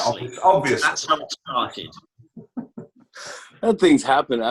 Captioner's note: laughter